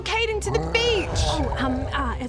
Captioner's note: grrrrrrrrrrr